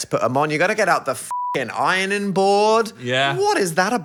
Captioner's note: beep